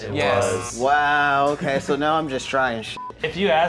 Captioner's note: beep